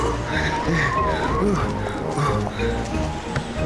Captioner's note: panting